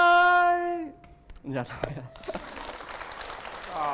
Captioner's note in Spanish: aplauso